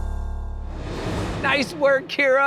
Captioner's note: graphics whooshing